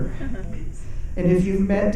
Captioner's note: audience chuckles